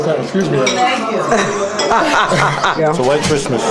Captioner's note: laughter